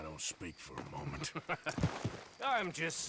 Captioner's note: laughs